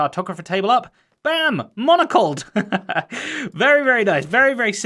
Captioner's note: chuckles